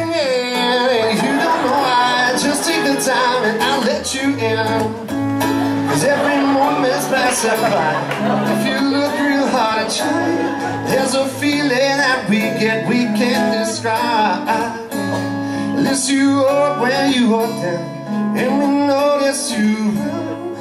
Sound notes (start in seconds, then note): 5.4 laughter